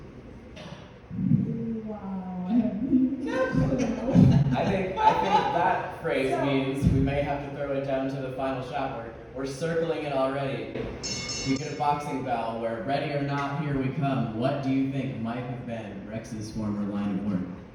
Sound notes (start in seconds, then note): 11.0 Final Shot boxing-bell sound effect!!